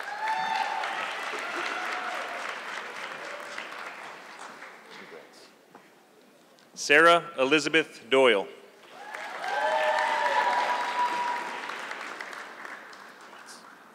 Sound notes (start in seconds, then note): 0.0 audience clapping; 8.8 audience clapping